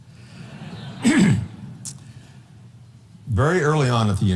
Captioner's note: audience laughing